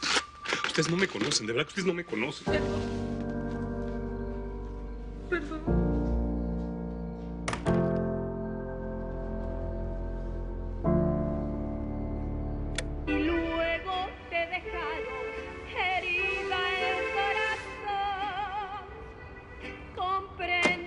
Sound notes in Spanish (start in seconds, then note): 12.7 Clic; 13.0 Música en la radio